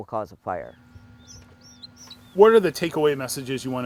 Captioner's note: chicks peeping